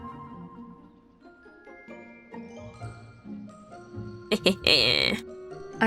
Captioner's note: laughing